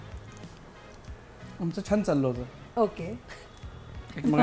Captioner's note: chuckles